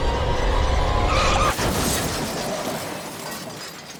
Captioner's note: crash